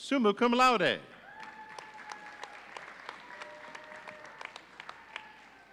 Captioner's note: audience applauding